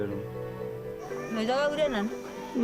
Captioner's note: woman No. 2 speaking native language